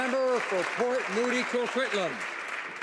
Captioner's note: applause